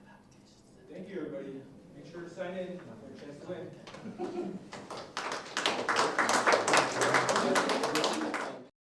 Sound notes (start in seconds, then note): 4.0 laughing; 4.7 audience applauding